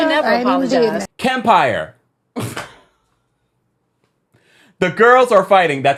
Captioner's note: chuckles